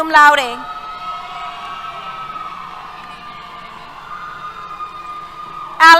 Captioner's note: cheers